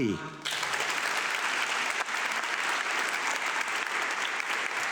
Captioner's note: audience clapping